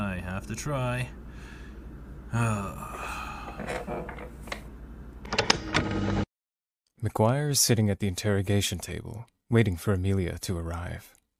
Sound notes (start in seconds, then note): 5.1 recording stops